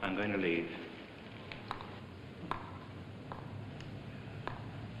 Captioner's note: footsteps